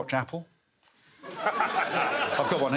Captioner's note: laughing